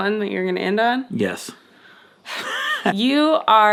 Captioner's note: chuckling